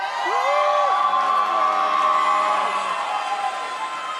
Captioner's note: audience cheers